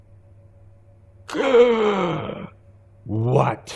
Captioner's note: exclaiming